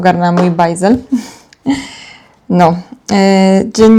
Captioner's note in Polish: wciągnięcie powietrza; westchnienie